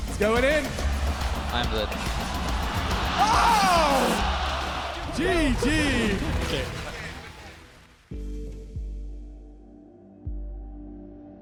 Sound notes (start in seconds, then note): 6.4 applause